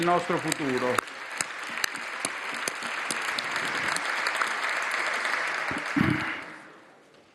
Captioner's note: roar of applause